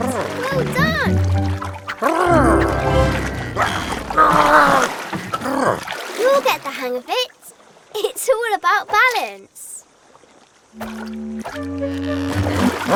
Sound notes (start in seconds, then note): 0.1 big Lizard purrs; 2.0 Big Lizard cheers; 2.0 triumphant music; 3.2 Big Lizard yelps; 5.5 Big Lizard groans; 10.9 water sloshes